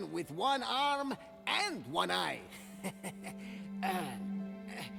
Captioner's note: laughs